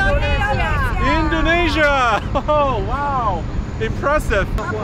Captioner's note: laughs